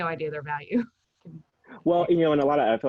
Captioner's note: chuckles